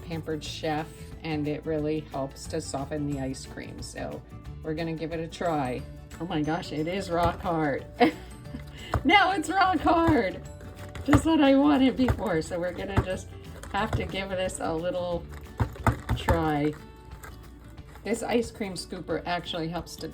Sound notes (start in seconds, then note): 7.9 chuckles